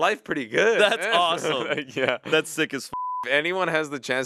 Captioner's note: beep